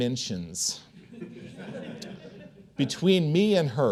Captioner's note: audience chuckling